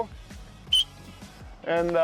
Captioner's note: whistles